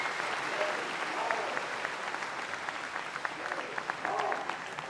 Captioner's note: speaker chattering